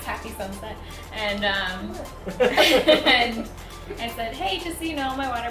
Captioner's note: both laugh